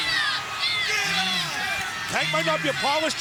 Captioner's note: crowd cheering